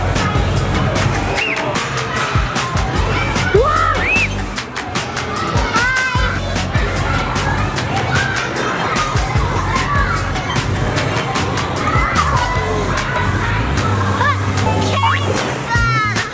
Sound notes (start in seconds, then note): 0.1 upbeat music; 7.6 kids playing